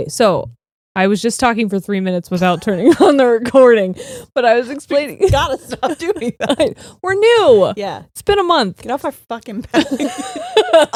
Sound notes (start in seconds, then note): 5.4 both laughing